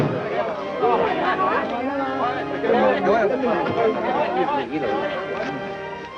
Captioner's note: chattering in foreign language